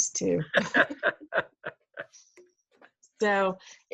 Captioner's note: laughing